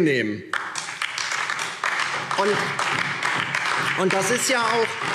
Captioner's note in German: Beifall DIE LINKE